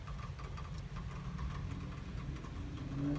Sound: car revving on street

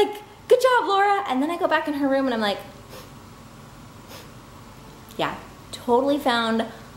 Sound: sniffs

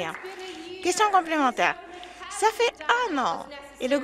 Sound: some Applause

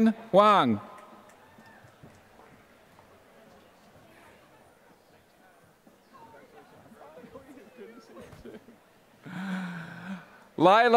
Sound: applause

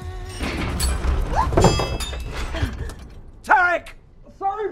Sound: loud bang

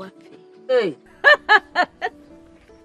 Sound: chuckles

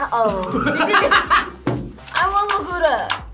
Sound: laughs

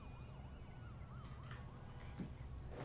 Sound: whispers

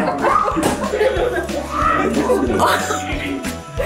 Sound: group laughs

